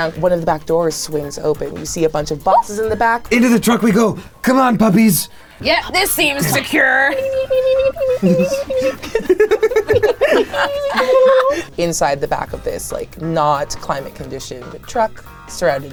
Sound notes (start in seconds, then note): 7.1 meeping; 9.1 everyone laughing